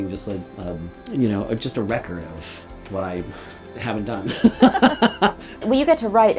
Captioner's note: both laugh